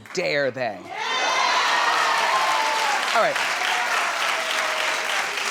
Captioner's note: audience cheering